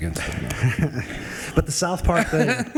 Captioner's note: attendees laughing